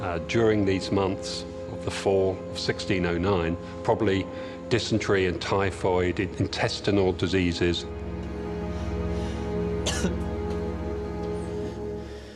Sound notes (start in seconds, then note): 9.7 coughs